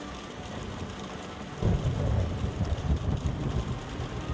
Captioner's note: thunder rumbling